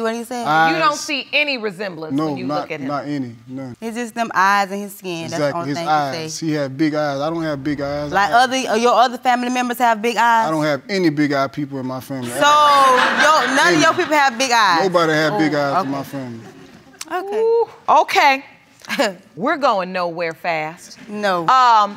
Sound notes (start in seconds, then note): 12.3 audience laughing